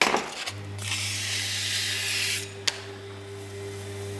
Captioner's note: scratching